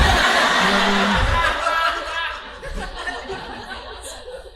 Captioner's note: audience laughing